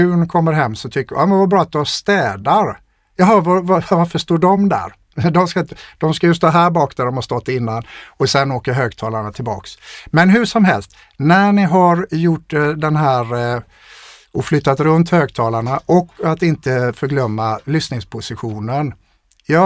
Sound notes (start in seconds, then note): 11.8 scoffs